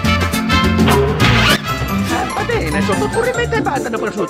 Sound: italian Gibberish

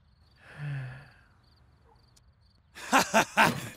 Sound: sighs; laughs

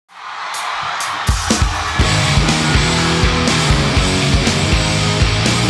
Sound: crowd cheering; upbeat rock music

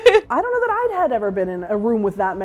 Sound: laughs

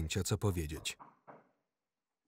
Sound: door knocking

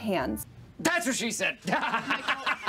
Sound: laughing

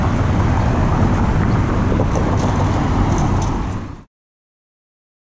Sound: wind whirring

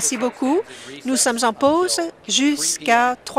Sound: applause

